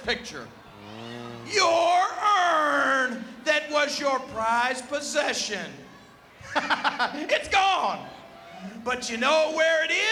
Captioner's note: laugh